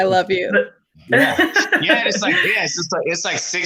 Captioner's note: laughing